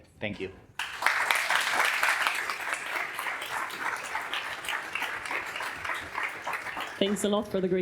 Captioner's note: applause